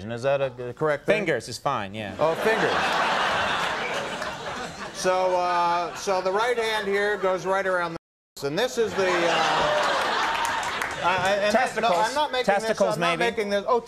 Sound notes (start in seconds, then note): 2.2 audience laughs; 8.9 audience roars with laughter